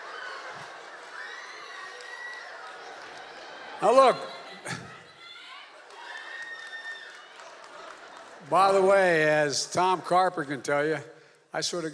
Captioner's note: applause